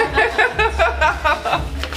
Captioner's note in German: lacht